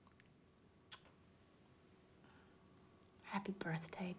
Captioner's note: lips smacking